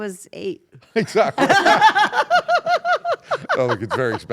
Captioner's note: laugh